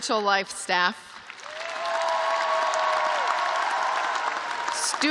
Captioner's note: cheers and applause